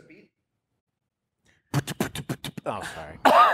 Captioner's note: beatboxes